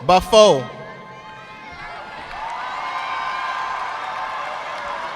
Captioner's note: audience clapping